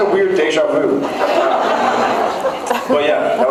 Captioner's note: laughs